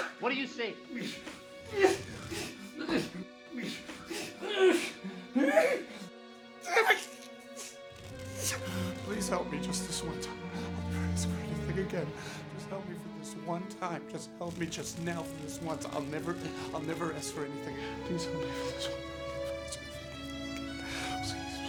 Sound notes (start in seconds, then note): 0.0 Charles crying out; 1.6 Charles groaning and grunting; 21.5 Charles whispering